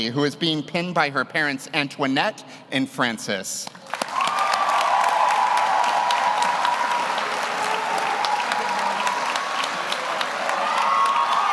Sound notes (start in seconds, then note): 3.7 audience applauds; 3.9 audience cheers